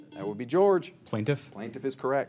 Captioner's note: signal beeps